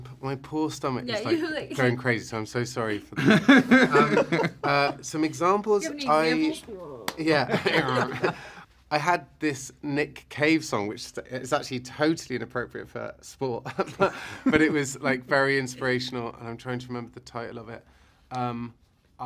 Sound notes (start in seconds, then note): 3.1 laughter